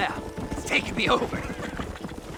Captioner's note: laugh